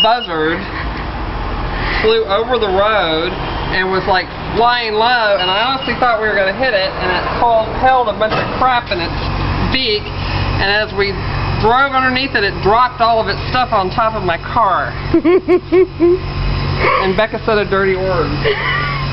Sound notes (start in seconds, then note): 15.1 Rebecca laughing